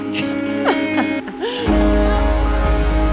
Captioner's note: laughs; rousing music